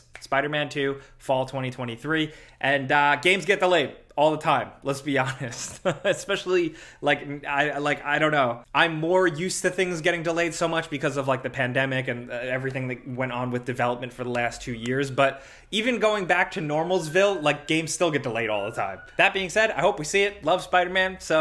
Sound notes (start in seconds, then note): 5.2 chuckles